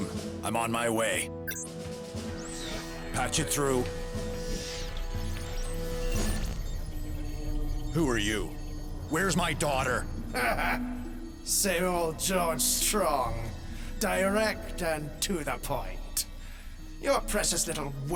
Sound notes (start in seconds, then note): 5.5 monitor beeps; 12.2 sneered chuckle